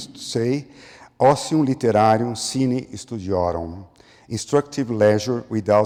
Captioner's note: foreign language